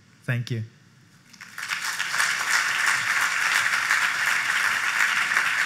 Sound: applause

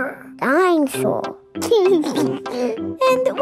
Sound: giggles

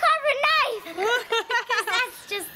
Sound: laughter

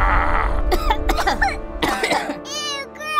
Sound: coughing

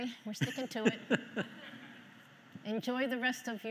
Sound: everyone laughing

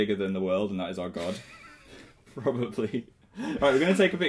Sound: giggling

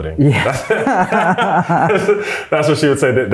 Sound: both laughing

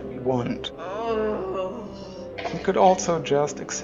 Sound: female voice moaning

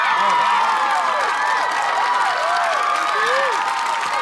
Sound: cheering

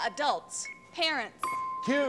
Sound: ding

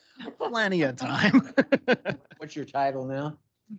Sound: laughs

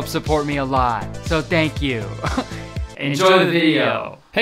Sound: laughs

